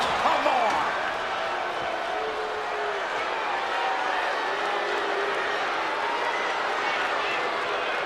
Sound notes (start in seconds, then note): 2.4 crowd boos